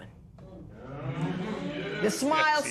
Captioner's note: spectators murmur